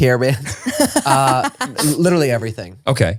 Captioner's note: laughing